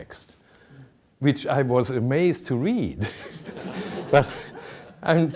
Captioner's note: audience laughing